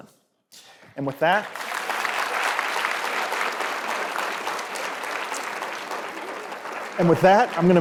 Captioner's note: applause